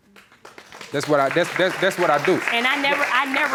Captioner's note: applauding